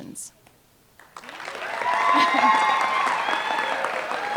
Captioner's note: applause